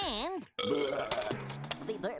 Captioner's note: belching